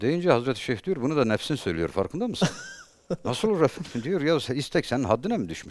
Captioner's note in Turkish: kahkaha